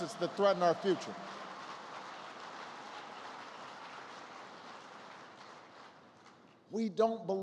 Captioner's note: applause